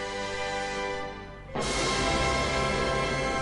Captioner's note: thunder